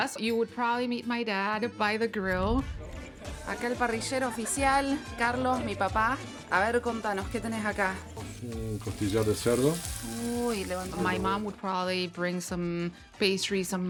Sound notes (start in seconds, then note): 2.6 upbeat music; 4.5 speaking in Spanish